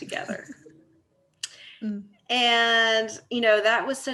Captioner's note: laughing